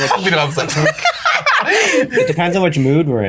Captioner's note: everyone laughing